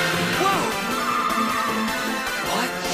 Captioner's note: bright music; car screeches